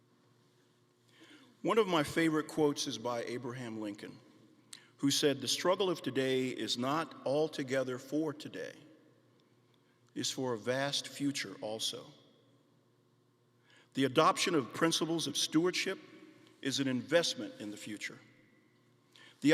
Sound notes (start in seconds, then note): none